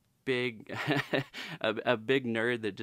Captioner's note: laughs